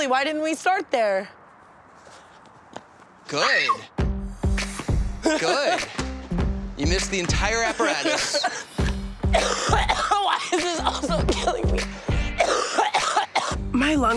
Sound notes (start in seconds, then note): 3.4 Tana screaming; 5.2 Tana laughing; 9.3 coughs